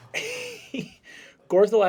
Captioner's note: laughter